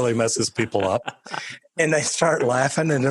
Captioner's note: laughing